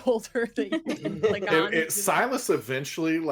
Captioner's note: everyone laughs